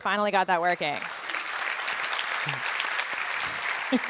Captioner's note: applause